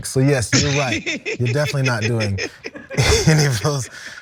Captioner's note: laugh